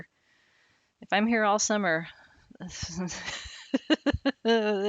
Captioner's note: laughing